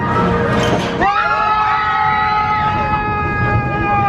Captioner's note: screaming